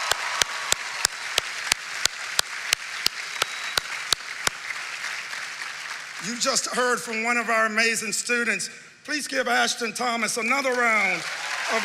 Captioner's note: cheering and applause